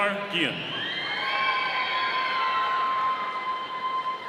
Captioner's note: audience cheering